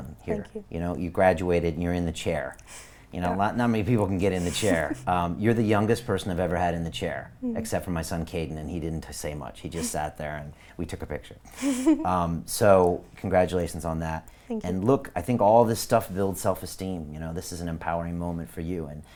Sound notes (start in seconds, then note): 4.2 giggling; 11.6 laughing